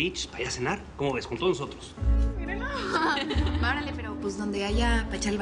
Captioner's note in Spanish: Risas